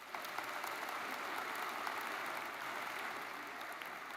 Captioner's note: audience applauds